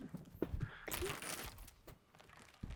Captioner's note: bag crinkling